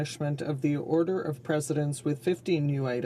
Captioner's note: speaking in French